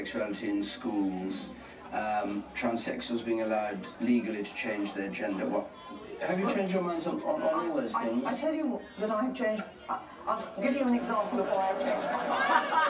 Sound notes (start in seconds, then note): 10.6 laughter from crowd